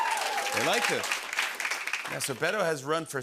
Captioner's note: cheers and applause